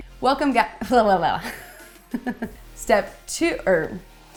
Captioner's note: laughs